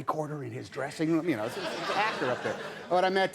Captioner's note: audience laughing